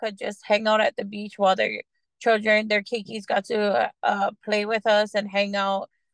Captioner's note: non-english speech